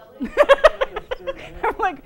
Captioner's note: laughter